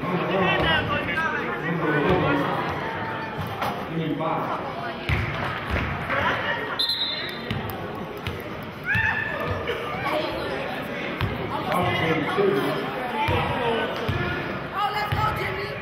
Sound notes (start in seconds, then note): 6.8 whistling